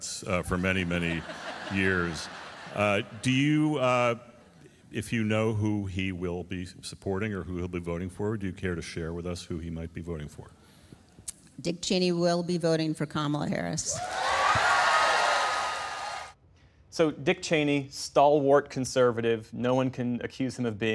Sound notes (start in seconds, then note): 2.9 laughter; 16.8 applause; 16.8 cheering